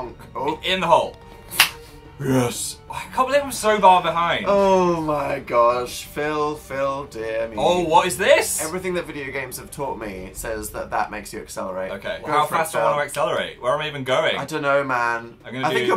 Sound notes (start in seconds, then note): 1.6 claps; 2.0 demonic voice